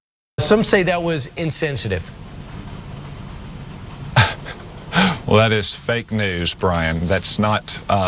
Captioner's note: laughs